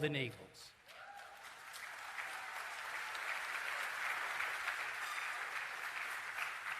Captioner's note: cheering and Applause